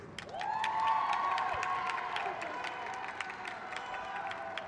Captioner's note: crowd cheers